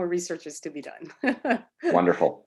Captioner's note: laughs